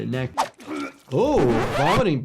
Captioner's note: person gagging; record scratching